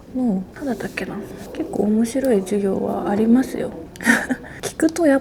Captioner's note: laughs